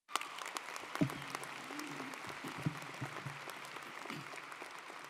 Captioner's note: audience applauding